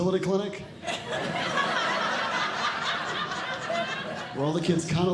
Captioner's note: audience Laughing